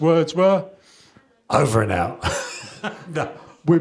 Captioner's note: chuckles